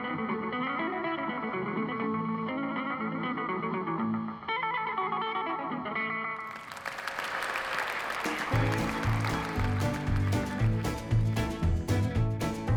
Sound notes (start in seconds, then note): 6.3 audience applauding; 8.0 lively country guitar music